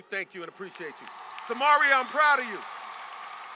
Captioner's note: applause